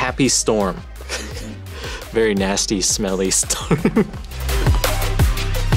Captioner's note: laughs